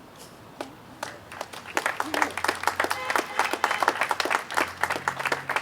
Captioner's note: audience applauding